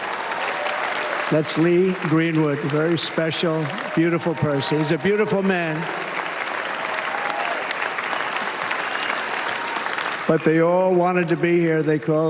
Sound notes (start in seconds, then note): 7.8 applause